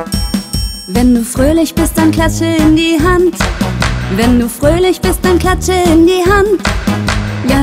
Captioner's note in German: klatsch, klatsch